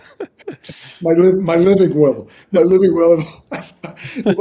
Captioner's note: laughing